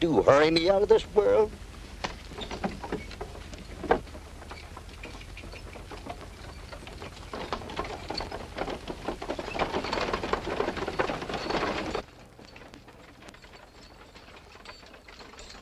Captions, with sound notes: hurry me out of this world? [ CART RATTLING ]